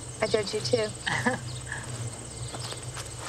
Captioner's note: chuckle